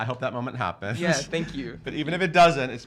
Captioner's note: all laugh